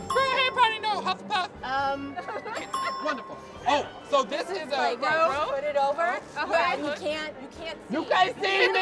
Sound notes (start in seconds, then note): 0.0 ding; 2.6 ding